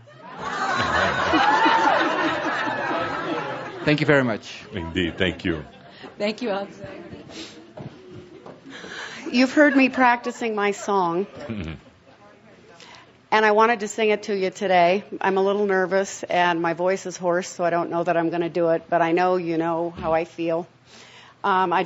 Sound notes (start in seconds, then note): 0.0 much laughter